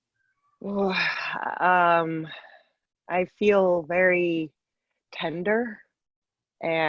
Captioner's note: sighs